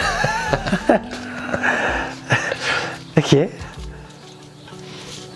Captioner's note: laughs